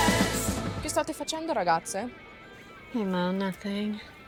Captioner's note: Moe speaking in Italian